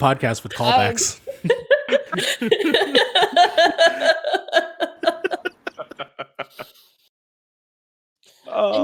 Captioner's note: laughing